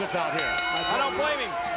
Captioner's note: bell rings